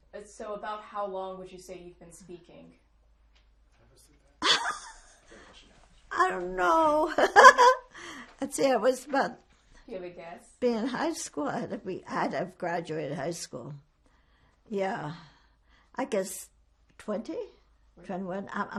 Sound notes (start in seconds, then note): 4.4 laughing